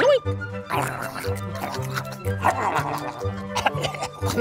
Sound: mouse munching; mouse coughing

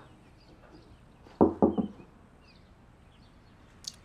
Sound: knocking on door

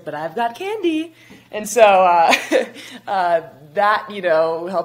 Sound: chuckles

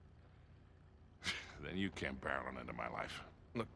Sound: laugh

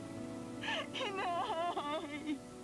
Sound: wails

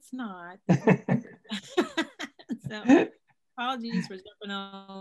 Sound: laughing

